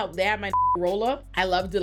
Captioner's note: beep